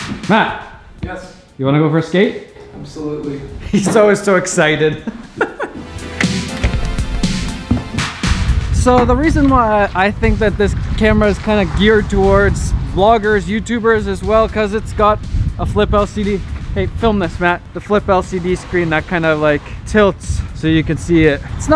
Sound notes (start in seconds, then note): 4.6 laughs